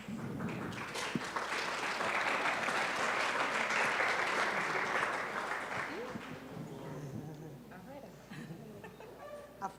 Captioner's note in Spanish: Aplausos